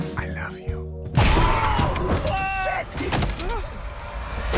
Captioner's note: loud bang